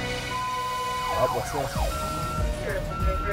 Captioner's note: police sirens; police radio